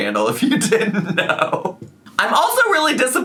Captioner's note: laughs